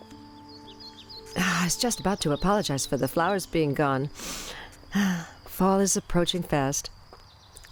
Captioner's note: sigh